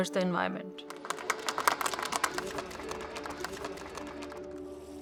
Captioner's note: clapping